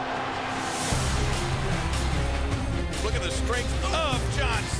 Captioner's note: crowd cheering